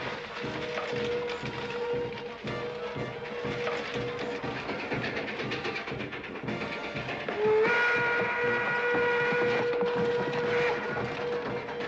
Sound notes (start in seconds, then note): 0.2 marching band playing; 4.3 train rumbling; 6.5 train whistle blaring